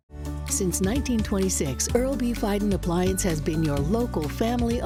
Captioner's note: voiceover